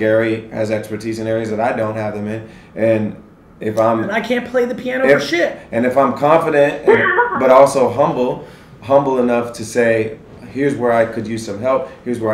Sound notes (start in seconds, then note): 6.8 laughs